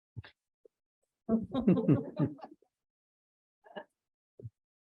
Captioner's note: laughter